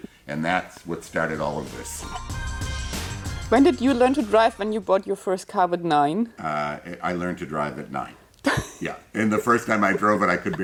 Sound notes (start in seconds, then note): 0.9 upbeat music; 8.5 laughs